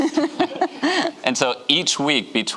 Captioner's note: giggles